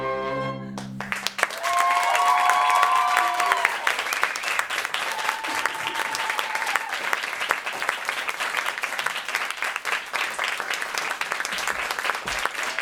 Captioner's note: applause